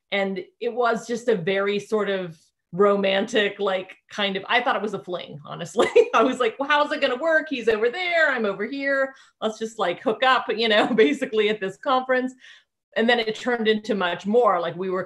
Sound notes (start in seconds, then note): 6.3 chuckling